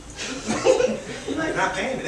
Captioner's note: laughter